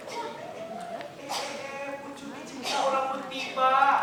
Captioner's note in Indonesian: Batuk